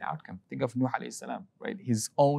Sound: speaking Arabic

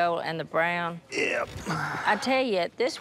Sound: sighs

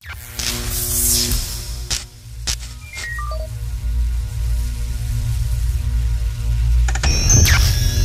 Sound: electronic sounds

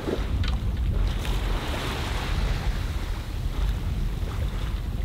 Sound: water crashing

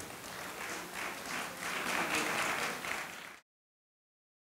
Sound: audience applauding

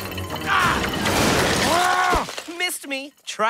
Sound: angry growl

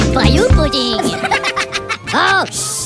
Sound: Minions Laughing

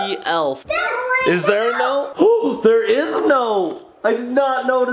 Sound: gasps

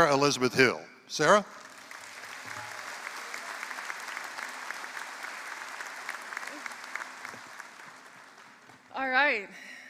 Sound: applause

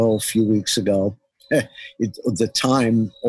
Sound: laughs

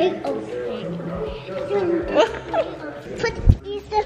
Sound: laughing

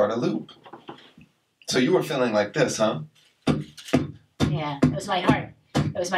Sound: Mr. Max beatboxing with a strong pulse

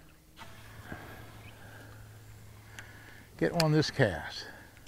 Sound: reel spinning

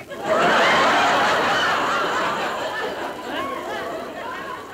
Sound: crowd laughing

